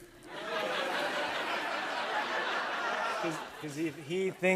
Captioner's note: laughter